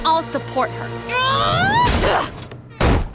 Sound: grunting

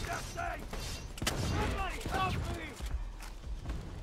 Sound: guns firing

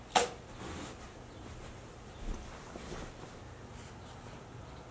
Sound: soft footsteps

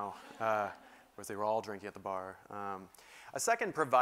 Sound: laugh

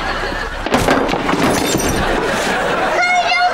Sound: clanking

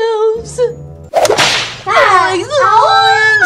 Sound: snap; screaming

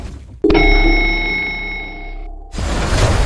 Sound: elevator ding

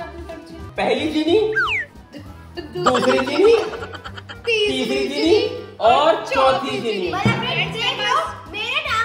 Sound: laughter

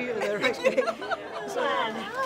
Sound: laughing

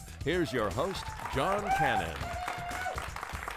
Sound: applause

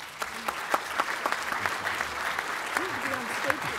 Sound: applause

